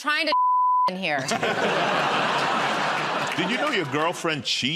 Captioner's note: laughter